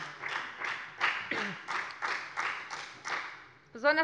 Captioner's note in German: Beifall bei der FDP